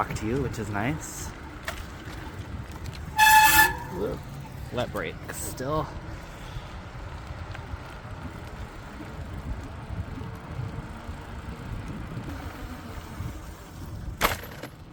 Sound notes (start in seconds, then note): 2.8 brake squeal